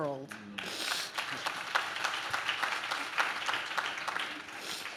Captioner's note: audience claps